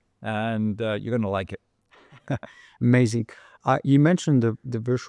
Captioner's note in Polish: śmiech